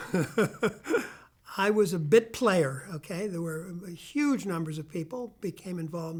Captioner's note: laughing